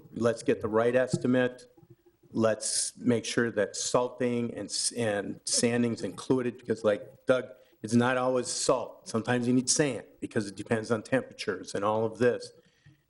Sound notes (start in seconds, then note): none